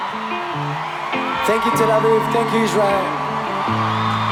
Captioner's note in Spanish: en inglés